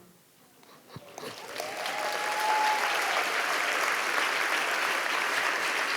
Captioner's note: audience applauding